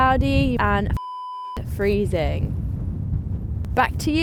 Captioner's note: beep